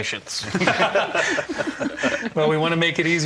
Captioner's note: panel laughing